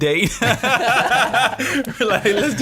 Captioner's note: laughing